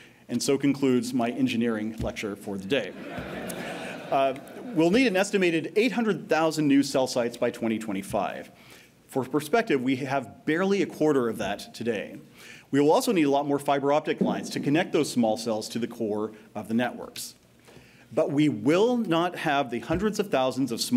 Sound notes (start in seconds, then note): 2.9 laughter